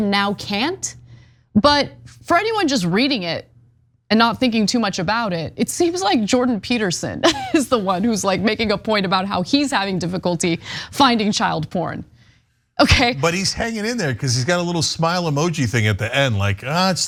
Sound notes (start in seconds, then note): 7.2 laugh